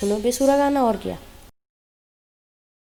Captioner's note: awkward silence